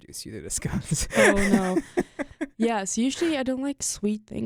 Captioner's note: chuckles